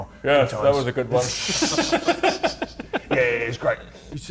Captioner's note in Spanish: Risas